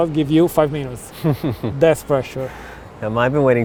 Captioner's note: laughs